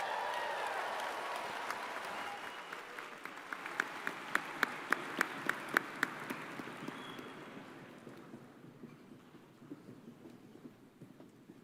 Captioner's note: cheers and applause